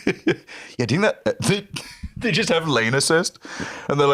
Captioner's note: laughs